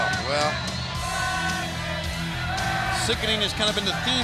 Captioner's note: crowd chatter